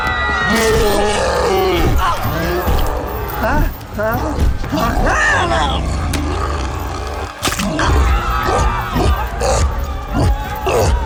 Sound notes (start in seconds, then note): 3.2 whimpering; 6.8 gasps; 7.3 bone cracks; 7.9 growls